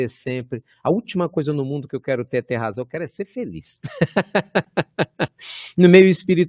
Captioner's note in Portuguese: risos